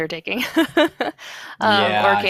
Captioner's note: laughs